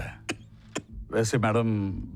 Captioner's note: coughs